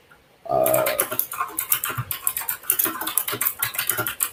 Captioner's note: keyboard clacks